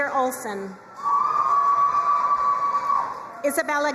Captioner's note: crowd cheering and applauding